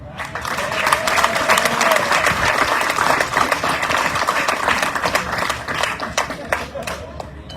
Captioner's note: audience cheering, applauding